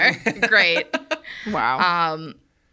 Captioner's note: laughs